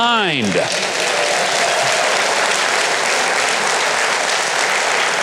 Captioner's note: audience laughs and applause